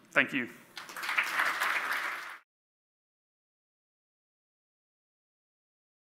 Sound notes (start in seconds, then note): 0.7 audience applauds